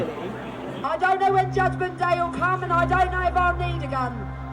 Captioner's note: loudspeaker